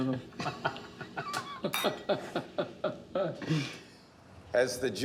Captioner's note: laughter